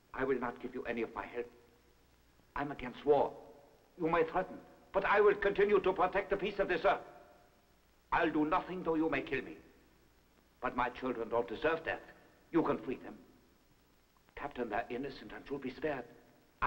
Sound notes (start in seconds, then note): none